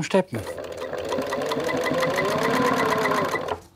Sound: whirring of the sewing machine

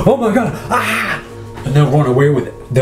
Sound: shouts

